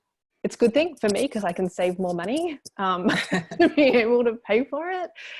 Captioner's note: laughs